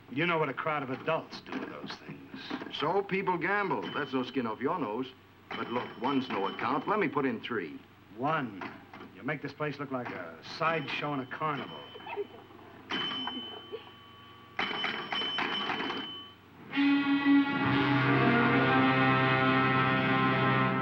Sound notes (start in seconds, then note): 13.0 pinball machine dinging; 16.9 tense dramatic music